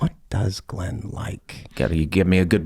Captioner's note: whispering